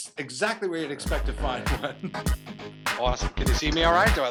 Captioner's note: laughs